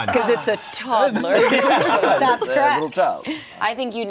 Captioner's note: everyone laughing